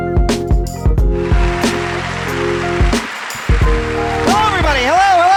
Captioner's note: applause